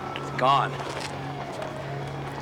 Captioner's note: siren wailing